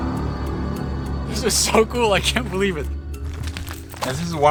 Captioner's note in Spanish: ríe